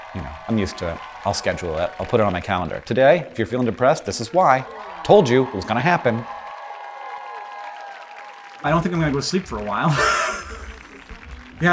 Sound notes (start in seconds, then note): 7.5 audience cheering and applauding; 9.8 laughs